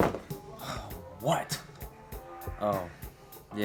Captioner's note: sighs